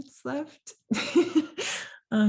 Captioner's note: laugh